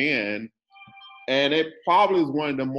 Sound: phone rings

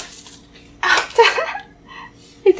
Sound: laughs

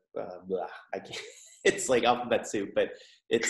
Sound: laughs

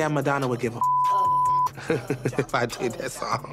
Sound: laughing

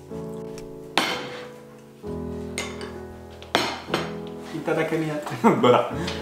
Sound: plate and spoons clinking; foreign language

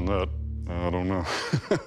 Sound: laughs

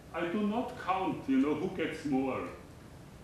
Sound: none

